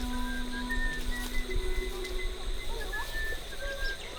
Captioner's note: whistles